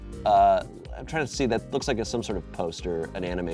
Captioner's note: none